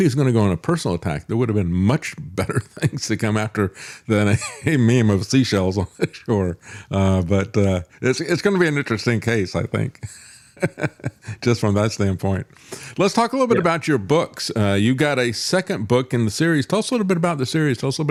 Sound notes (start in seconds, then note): 9.9 laughs